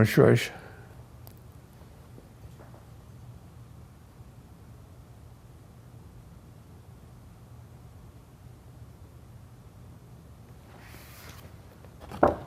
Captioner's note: pause